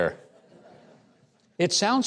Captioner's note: audience laughing